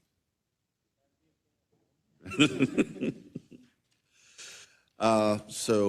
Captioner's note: laugh